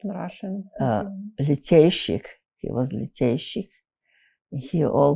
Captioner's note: russian